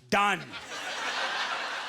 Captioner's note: audience laughter